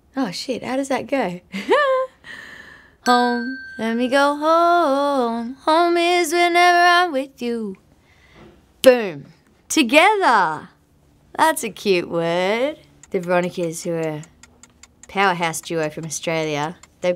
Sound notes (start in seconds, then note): 1.6 laughing